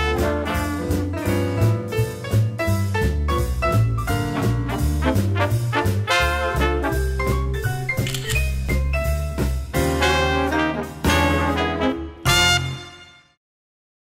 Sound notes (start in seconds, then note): 7.6 clicks